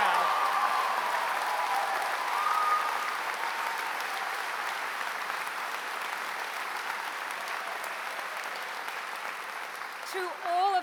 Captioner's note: applause